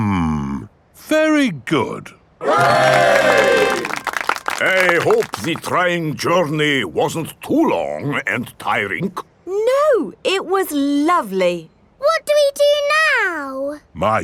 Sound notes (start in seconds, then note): 2.5 clapping